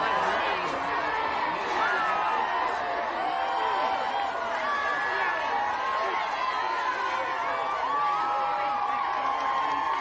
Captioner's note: inmates cheering